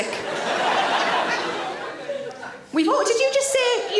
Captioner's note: audience laughing